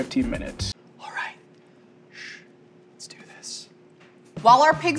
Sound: whispers

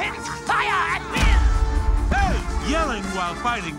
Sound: cannons roar

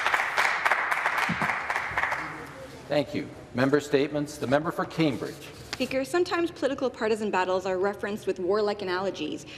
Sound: some Applause

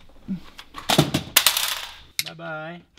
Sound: clatters and clashes

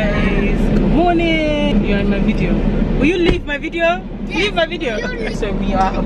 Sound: shouts at husband in bobrisky manner

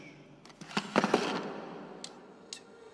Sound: cracks

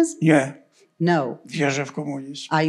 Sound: foreign language

